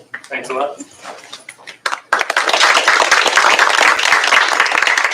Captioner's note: applause